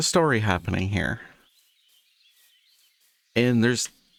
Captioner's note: birds chirping